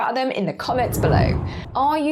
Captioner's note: graphic whooshes